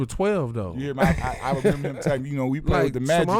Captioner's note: laughing